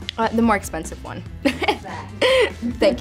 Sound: laughs

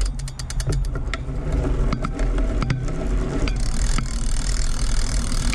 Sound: bicycle pedaling

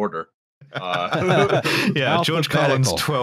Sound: laughter

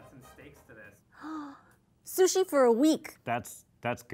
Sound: inhales deeply

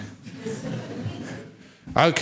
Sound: laughter

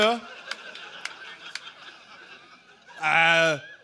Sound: laughter

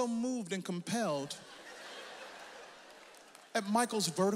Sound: audience laughs

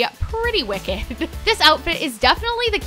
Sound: giggles

